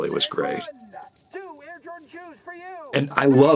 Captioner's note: Gene over megaphone